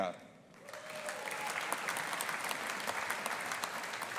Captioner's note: audience applauding